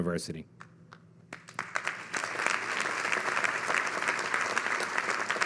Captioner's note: audience clapping